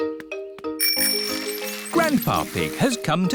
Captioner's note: bell rings